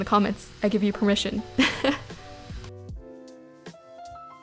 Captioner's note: chuckles